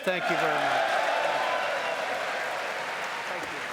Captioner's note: cheering and applause